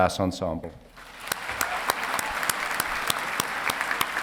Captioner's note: applauding